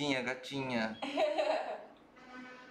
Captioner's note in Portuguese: risos